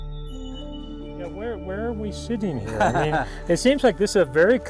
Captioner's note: laughs